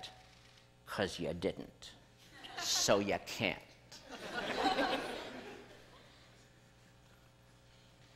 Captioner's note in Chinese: 笑聲